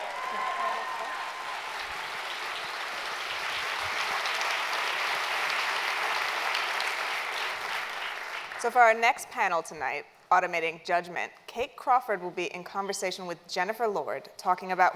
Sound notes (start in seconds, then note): 2.5 cheers and Applause